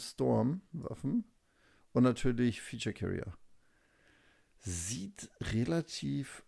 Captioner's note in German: none